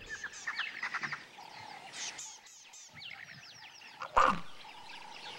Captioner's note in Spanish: sonidos selváticos